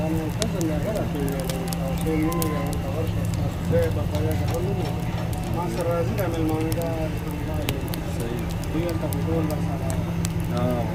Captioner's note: Background voices of burning and talking in local language called Pashto